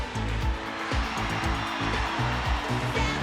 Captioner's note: raucous cheering